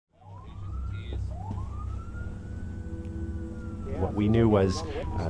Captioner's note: ambulance sirens wailing; voiceover